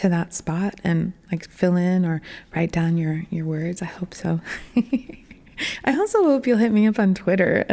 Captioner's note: laughing